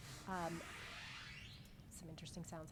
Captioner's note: electronic squealing